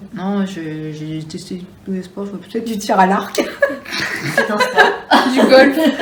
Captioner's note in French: rires